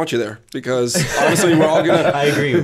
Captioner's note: laughter